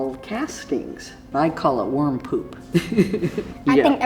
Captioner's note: laughs